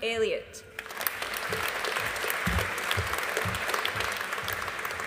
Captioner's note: audience applauding